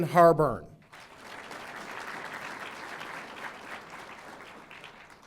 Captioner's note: audience applauding